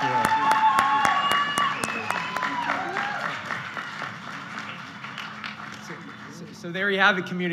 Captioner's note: applause and Cheers